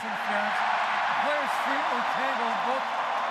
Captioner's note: cheering